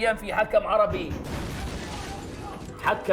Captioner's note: SWAT shouting